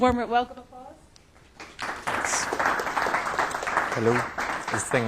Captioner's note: applause